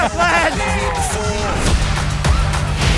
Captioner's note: laughing; upbeat music